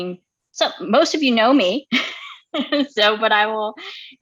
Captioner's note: laughing